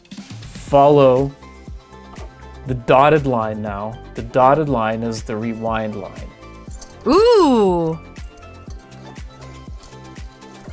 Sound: female voice: ohhh

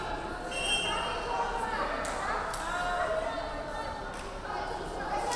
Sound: referee whistling

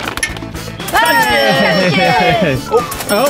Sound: cash register dinging; group cheering

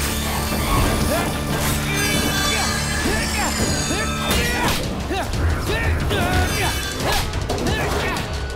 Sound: grunting

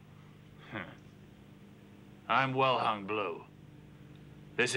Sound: chuckles

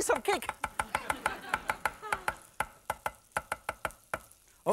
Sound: audience laughing

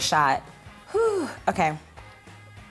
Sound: exhales

